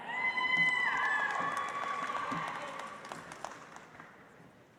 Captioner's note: audience applauds